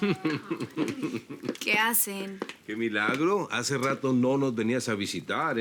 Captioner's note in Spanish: Risas